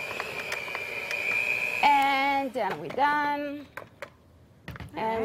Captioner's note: motor whirring